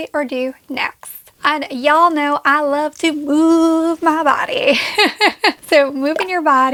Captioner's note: laughs